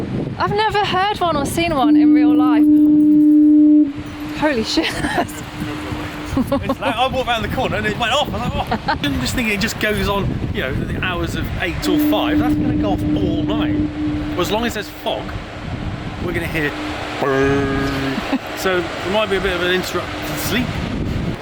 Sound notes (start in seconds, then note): 1.4 fog horn blows; 17.5 makes fog horn noise